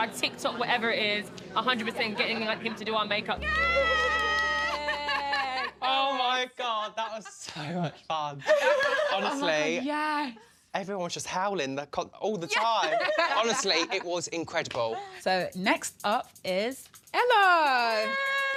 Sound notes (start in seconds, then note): 3.4 cheering